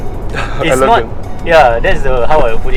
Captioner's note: laughs